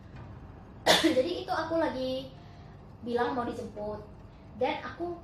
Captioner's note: cough